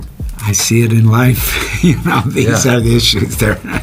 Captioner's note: laughs